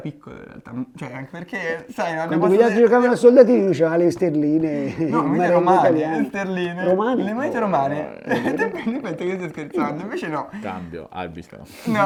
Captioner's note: laughs